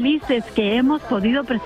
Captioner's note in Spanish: llora